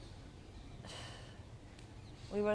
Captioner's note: sighing